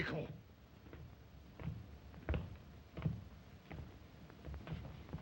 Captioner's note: Zaroff speaks Russian; footsteps